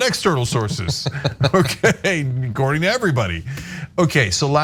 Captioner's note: laugh